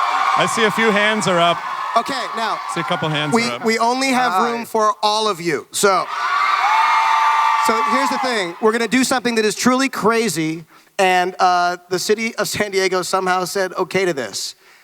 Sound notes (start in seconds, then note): 5.9 audience cheering